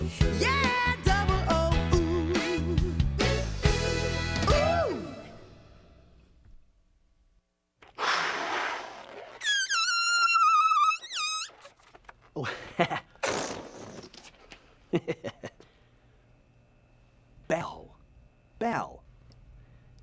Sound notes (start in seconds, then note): 7.8 balloon squeaking; 12.3 chuckles with embarrassment